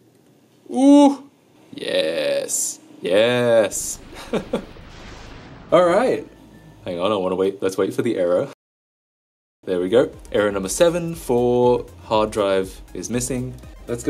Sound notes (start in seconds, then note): 3.7 chuckles